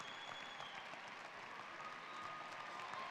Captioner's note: cheering and applause